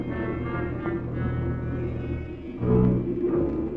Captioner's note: people chattering